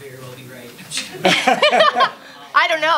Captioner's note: laughing